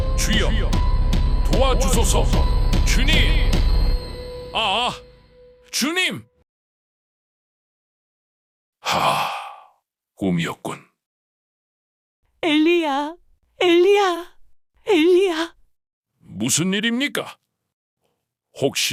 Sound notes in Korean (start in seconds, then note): 8.8 한숨